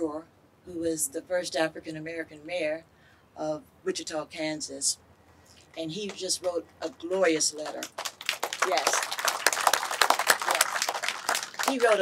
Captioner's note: clapping